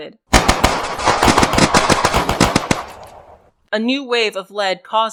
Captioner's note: gunfire, shouting, and charging